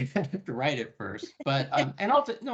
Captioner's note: laughing